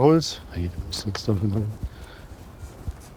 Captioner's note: mutters